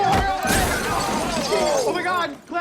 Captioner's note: glass breaking